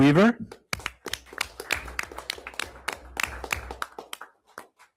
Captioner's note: everyone applauds